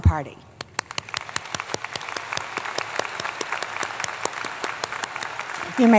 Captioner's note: applause